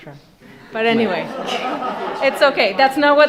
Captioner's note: laughter